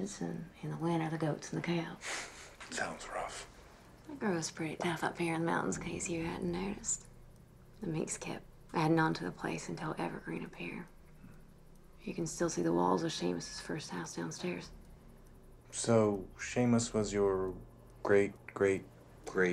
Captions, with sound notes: and in the winter, the goats and the cows. - (laughs) Sounds rough. - They grow us pretty tough up here in the mountains in case you hadn't noticed. The Meeks kept addin' onto the place until Evergreen appeared. You can still see the walls of Seamus' first house downstairs. - So Seamus was your great, great, great--